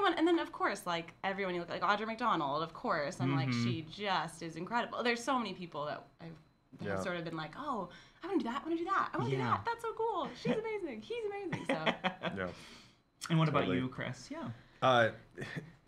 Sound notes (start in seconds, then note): 11.4 laughs